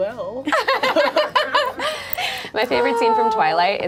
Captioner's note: group laughs